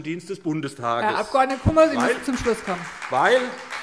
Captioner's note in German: Beifall SPD